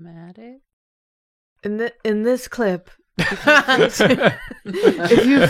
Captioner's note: laughter